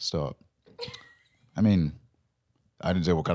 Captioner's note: laughing; laughs